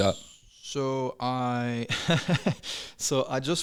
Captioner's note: laughs